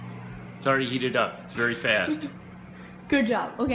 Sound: laughs

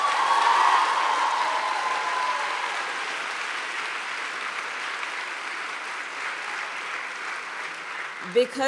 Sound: applause

